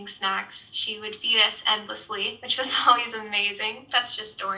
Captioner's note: laughs